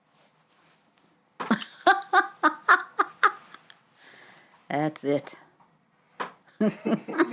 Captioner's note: laughing; laughs